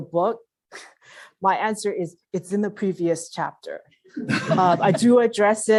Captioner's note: laugh